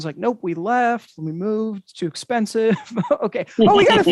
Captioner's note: chuckles